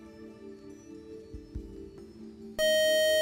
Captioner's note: time-out buzzer